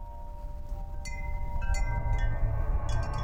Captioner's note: windchimes tinkle